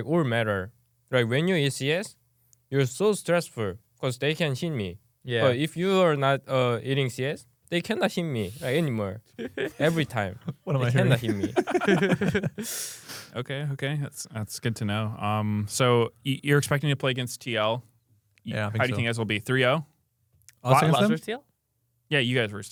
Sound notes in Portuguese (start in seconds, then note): 9.4 risos